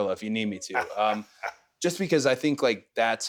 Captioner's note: Austin chuckles